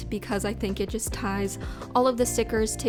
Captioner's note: none